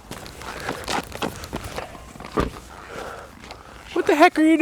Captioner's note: footsteps running